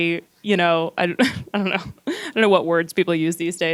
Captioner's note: laughs